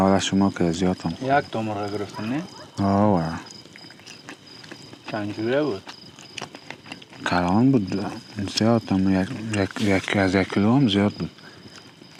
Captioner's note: talking